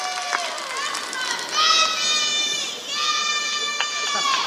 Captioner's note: applause